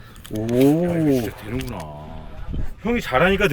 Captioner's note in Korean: 감탄